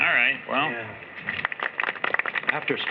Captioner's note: applause